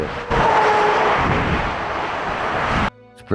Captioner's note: trucks engine loudly whirs